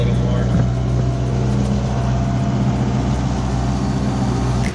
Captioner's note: boat engine running